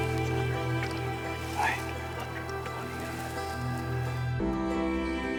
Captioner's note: whispering